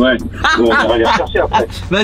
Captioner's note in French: rire